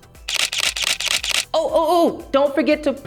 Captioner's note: camera shutters